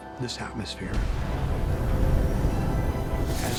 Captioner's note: boom and rumbling